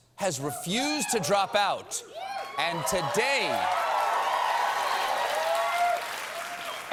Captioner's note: cheers and applause